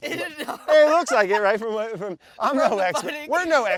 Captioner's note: laughs